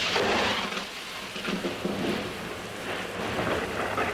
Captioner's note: thunder and rain